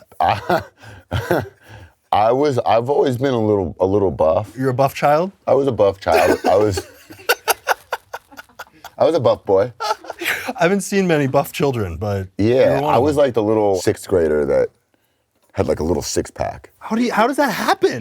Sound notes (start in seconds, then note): 0.1 Jimmy laughs; 8.2 breathy laugh